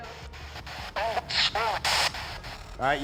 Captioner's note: spirit box voice